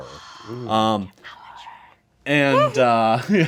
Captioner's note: group gasps; group laughs